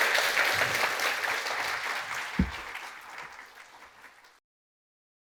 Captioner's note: applause